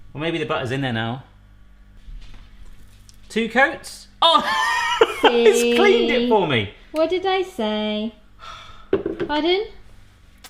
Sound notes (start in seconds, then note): 4.3 laughs